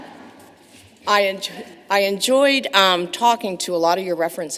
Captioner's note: laughter